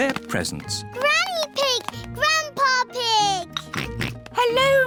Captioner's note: oinks